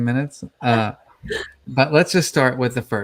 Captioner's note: chuckles